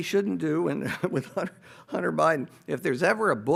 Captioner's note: laughing